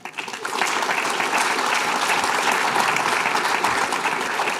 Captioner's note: applause